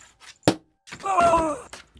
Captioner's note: thud